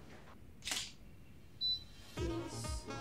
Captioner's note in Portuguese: Som de câmera fotográfica